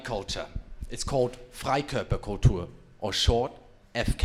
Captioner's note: foreign language